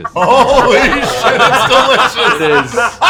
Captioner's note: laughing; laughter